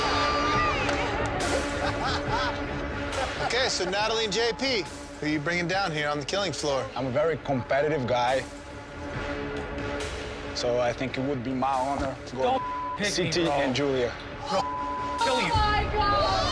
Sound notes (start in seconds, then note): 0.0 shouts; 0.0 contestants cheer; 1.5 laughs; 12.5 beep; 14.5 beep